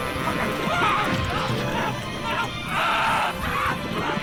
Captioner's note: screaming